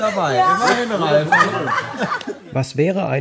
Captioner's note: laughter